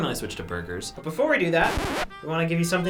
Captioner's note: record scratching